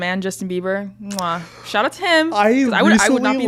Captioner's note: blows kiss